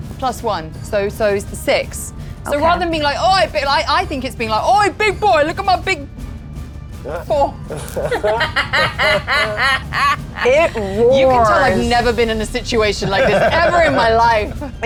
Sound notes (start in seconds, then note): 7.7 laughing; 7.7 laughs